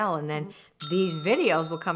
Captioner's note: bell rings